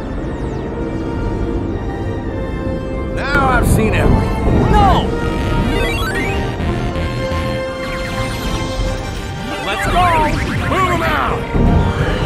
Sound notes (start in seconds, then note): 7.9 lasering bits